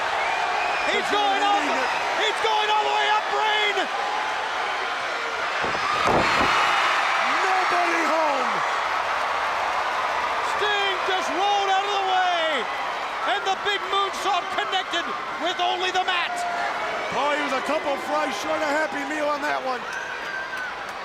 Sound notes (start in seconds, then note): 6.3 Vader thudding; 6.3 crowd cheering